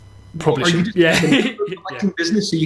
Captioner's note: laughs